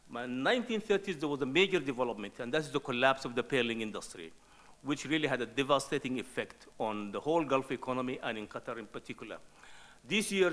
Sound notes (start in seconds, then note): none